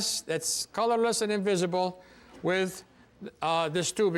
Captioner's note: none